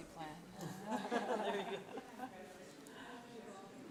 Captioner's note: laughing